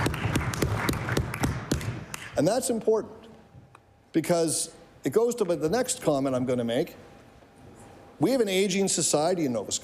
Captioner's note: cheering/Applause